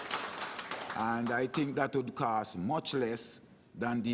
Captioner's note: applause